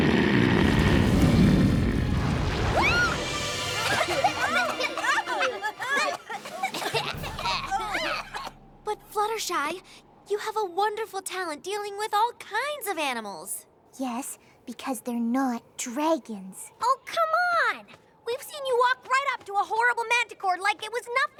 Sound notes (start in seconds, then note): 0.3 dragon snoring loudly; 3.3 squeals; 3.8 all coughing